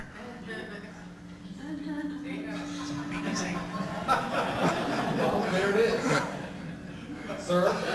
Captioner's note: audience laughs